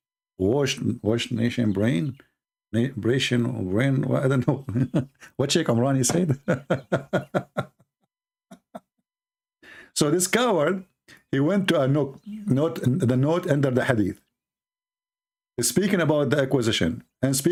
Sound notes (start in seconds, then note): 6.1 Ketawa